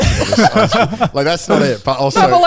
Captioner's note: laughing